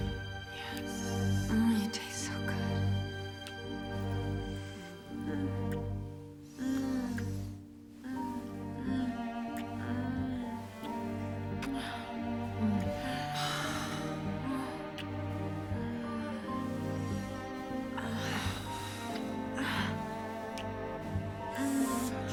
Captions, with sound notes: Yes. You taste so good. [moaning]